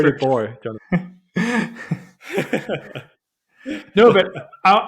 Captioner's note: both laughing